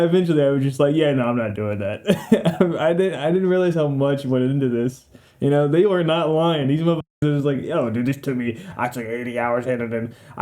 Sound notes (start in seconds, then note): 2.0 the laugh of a lazy man plays